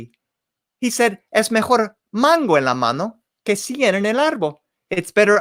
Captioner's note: spoken in foreign language